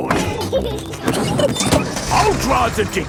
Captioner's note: peppa and george laughing